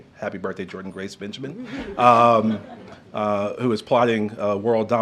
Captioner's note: laughter